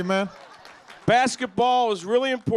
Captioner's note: laughter